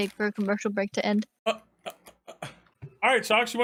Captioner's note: stammers